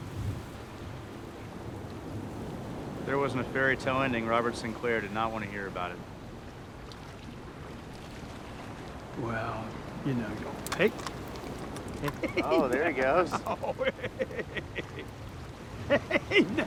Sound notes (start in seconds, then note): 11.9 laughing